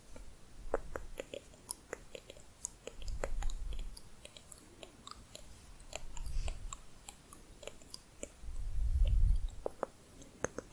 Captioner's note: quick tongue clicking